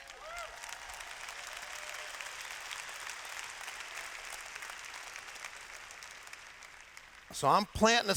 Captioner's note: applause